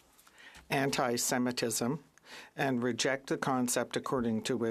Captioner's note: speaking French